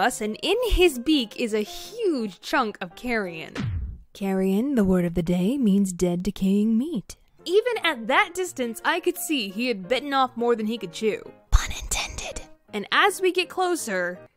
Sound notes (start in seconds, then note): 3.6 record scratch; 11.5 whispers loudly